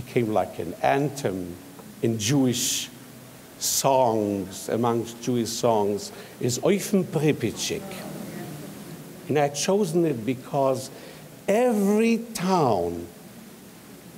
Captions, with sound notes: became like an anthem in Jewish songs, amongst Jewish songs is (speaks in foreign language) and I chosen it because every town had a Jewish teacher,